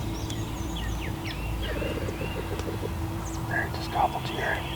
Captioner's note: whispering